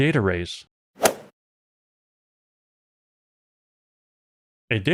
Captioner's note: golf ball hit sound